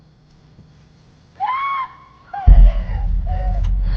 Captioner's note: woman screaming